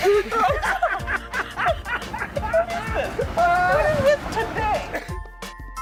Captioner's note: laughs